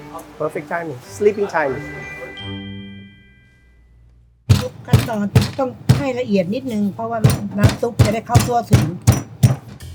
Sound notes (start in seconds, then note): 4.5 pestle banging; 5.4 speaking Thai